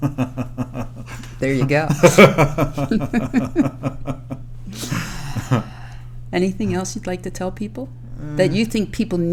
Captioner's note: laughter